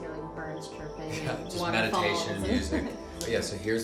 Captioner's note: laughs